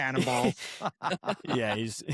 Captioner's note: laughter